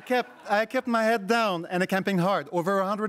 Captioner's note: crowd laughs